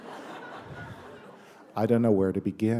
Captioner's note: laughter